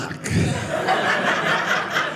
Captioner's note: audience laughing